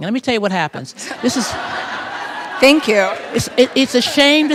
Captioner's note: laughter